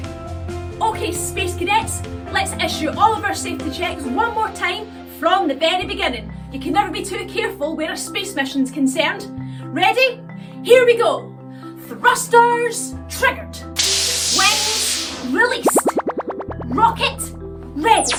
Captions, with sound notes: Okay space cadets. Let's issue all of our safety checks one more time from the very beginning. You can never be too careful where space mission's concerned. Ready. Here we go! Thrusters triggered. [FIZZLE] Wings released. [WARBLE] Rocket ready.